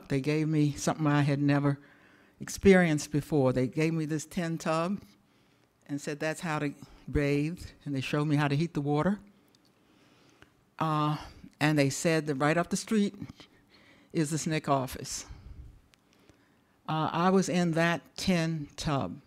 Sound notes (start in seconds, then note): none